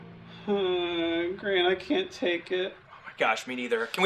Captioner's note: groans